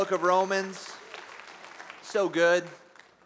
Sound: applause

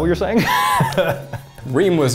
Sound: laughing

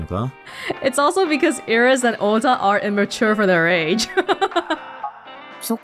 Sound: chuckles

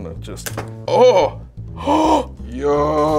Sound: gasps

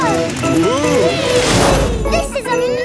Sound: all exclaiming

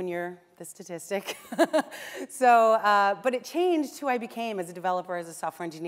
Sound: laughs

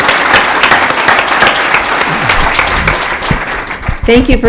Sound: applause

